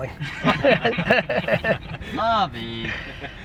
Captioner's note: laughs